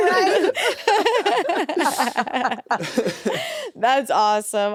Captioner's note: all laugh